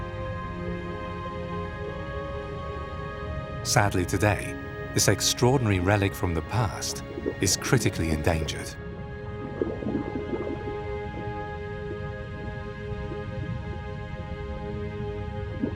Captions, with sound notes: Sadly, today, this extraordinary relic from the past is critically endangered. (water sloshes) (gentle music)